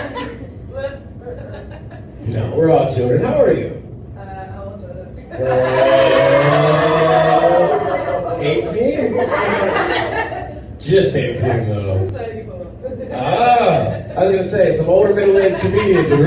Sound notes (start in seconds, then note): 5.3 crowd groan